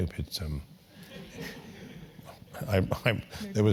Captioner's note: laugh